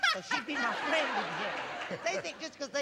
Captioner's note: laughter